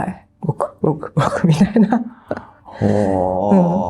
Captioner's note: laughs